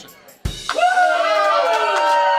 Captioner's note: audience cheering